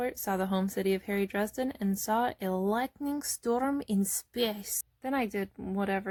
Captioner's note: said in a bad Russian accent, RIP Anton Yelchin